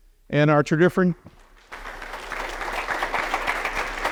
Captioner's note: applause